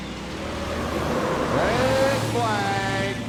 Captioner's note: tires squealing